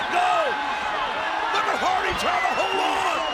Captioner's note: audience cheering